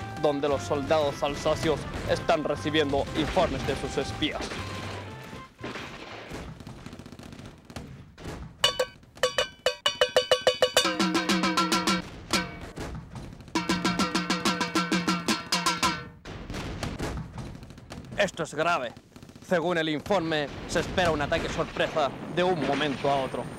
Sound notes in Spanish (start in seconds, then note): 9.2 Sonido de tarros chocando